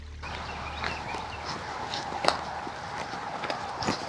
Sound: footsteps crunching leaves

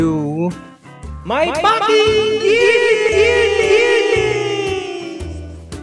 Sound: echoes, screaming

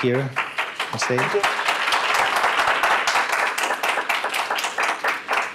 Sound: applause

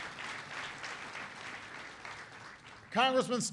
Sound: applause

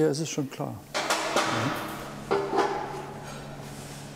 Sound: clattering in the background

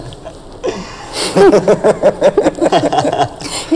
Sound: people laughing

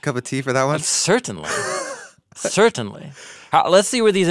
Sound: laughing

